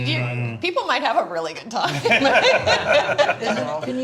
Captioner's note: all laughing